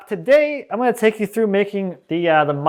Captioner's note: none